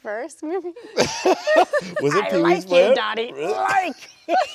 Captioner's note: people laughing